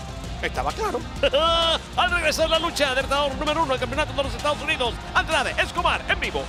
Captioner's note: laugh